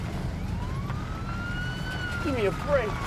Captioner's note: police siren